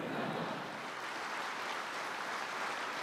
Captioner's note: audience chuckling; applause